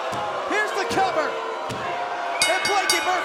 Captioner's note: bell ringing